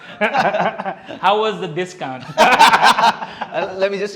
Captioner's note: laughs; laughs